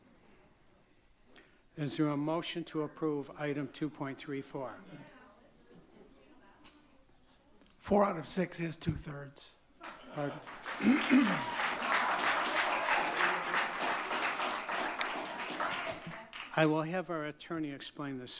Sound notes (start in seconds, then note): 5.2 audience chattering; 10.3 audience clapping and chattering